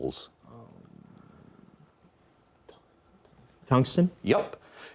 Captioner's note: students whispering